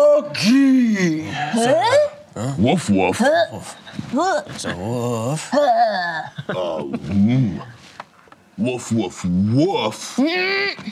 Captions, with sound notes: Woof, woof. (grunting) Woof, woof, woof.